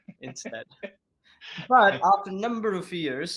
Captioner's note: laughing